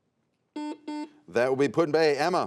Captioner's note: buzzer sounds